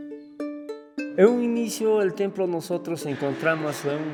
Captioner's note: non-english speech